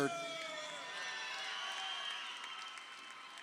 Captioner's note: crowd cheering